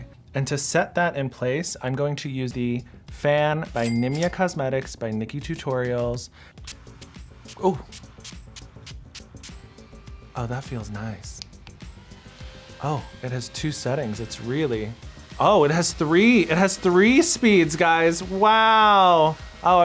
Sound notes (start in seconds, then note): 7.4 spray spritzes